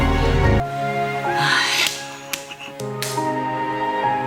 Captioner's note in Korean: 훌쩍